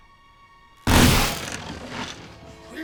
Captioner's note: shotgun blast